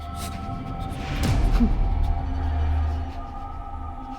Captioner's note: shivering